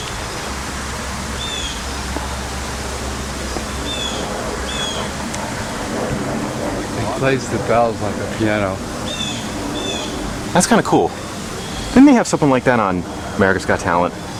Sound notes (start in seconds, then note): 0.3 birds Chirping & Running Water; 4.3 airplane Overhead